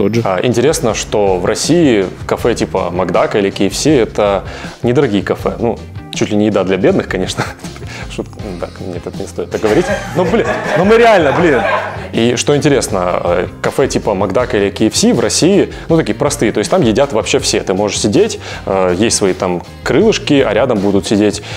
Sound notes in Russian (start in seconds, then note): 9.6 смех съёмочной группы